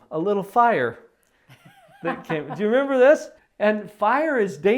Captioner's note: laughs